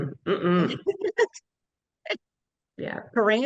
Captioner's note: giggling